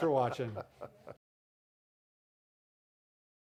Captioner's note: chuckling